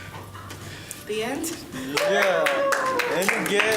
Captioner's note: cheering